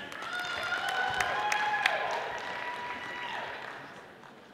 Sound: audience applauding

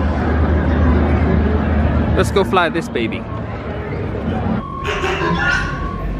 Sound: display counter beeping

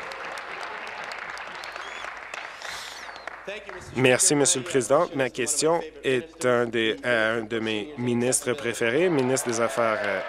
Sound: applause

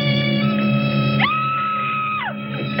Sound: scream

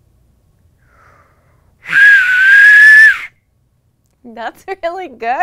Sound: whistling

